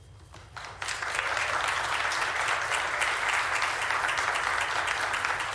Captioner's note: witnesses claps